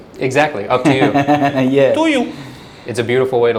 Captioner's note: laughing